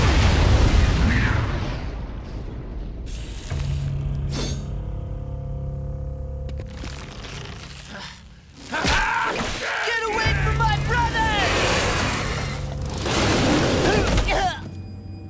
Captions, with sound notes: [screaming] Get away from my brother! [grunting]